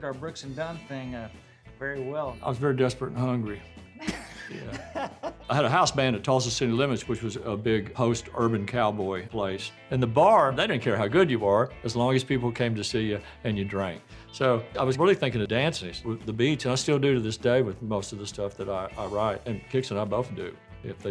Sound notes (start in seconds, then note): 4.0 laughing jokingly